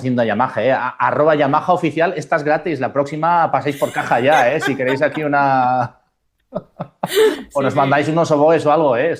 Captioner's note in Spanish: risas